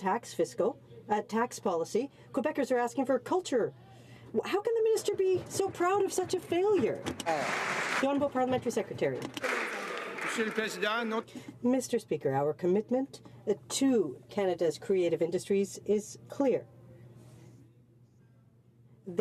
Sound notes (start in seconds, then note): 9.4 some Applause